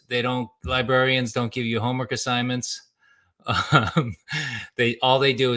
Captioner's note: laughs